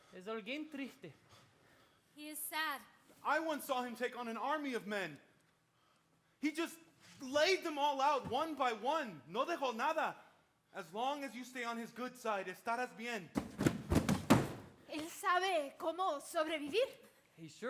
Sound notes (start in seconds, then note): 0.2 speaking Spanish; 9.2 speaks in Spanish; 12.5 speaks in Spanish; 13.4 boxes thudding; 15.0 speaks in Spanish